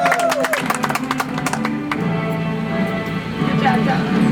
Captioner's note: audience applauds